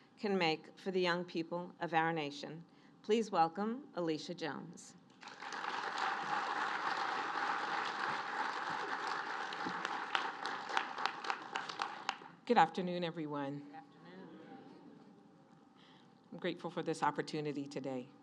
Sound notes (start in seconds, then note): 5.2 applause